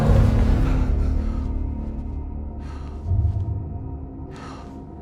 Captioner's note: Danny gasps; dramatic music; heavy breathing